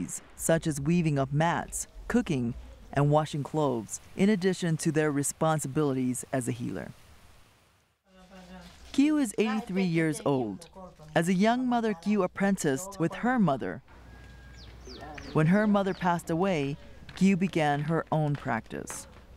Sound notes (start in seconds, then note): 8.1 background foreign language; 14.0 bird chirping